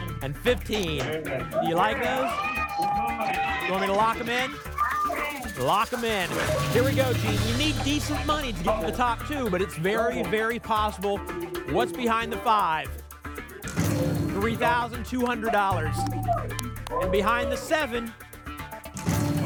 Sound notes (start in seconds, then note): 1.4 cheering